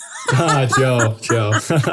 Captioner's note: laugh